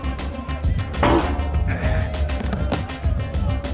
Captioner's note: elbow thudding; groans; chair bangs; body thudding